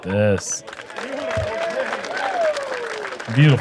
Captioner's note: applause